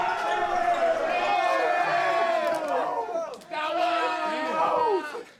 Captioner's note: players continuing to cheer